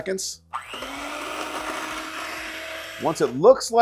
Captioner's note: mixer whirs